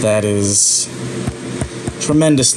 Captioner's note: frustrated tapping on laptop screen